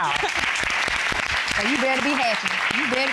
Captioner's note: audience applauds